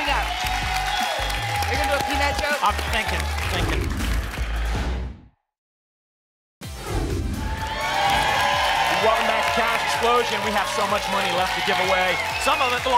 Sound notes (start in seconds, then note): 0.0 applause and cheering cont; 4.5 whoosh; 7.4 applause and cheering